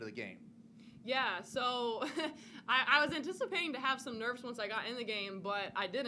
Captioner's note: chuckles